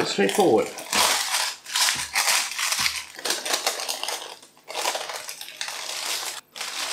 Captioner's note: paper rustlin